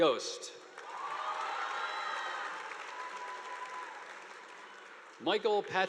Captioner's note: audience applauding; students cheering